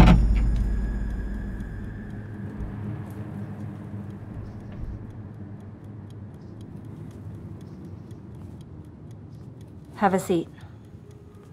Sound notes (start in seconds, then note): 2.5 ominous music; 2.5 quiet ticking